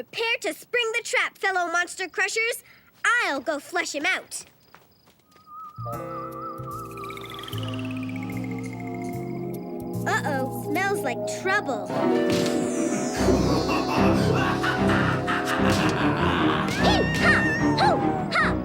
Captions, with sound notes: PREPARE TO SPRING THE TRAP, FELLOW MONSTER-CRUSHERS! I'LL GO FLUSH HIM OUT! UH-OH! SMELLS LIKE TROUBLE! (CACKLING, SCARY LAUGHTER) HEE! HA! HO! HA!